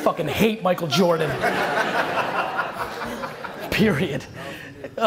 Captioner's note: audience laughter